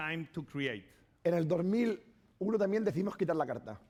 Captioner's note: speaking spanish